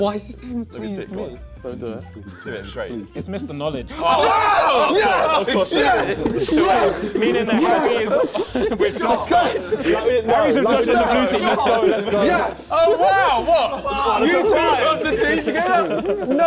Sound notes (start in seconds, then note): 10.0 crowd mumbling